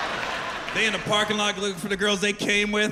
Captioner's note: laughter